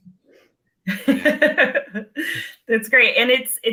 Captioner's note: laughing